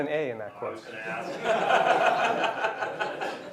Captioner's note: laughter